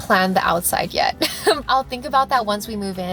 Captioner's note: giggles